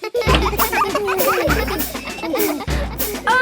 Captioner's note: children laughing